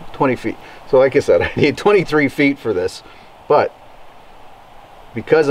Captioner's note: chuckles